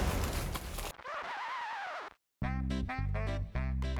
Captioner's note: record scratches to a stop